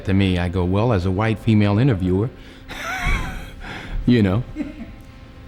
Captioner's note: laughs